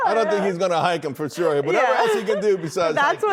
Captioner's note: laughter